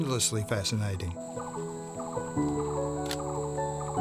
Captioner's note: bird calling; shutter clicks